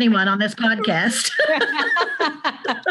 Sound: both laugh

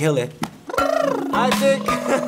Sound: blubbering

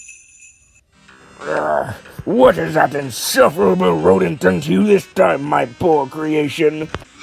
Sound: grunts

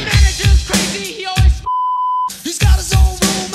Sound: beep

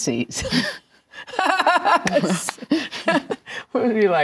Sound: laughs

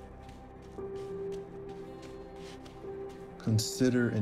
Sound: feet stomping

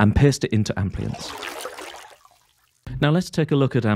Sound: water splashing

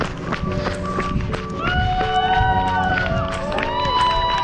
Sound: cheering

